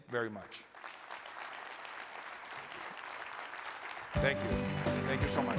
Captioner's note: audience clapping